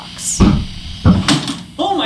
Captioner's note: slam